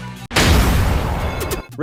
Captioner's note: energetic music; object smashes